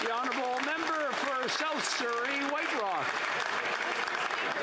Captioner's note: some Applause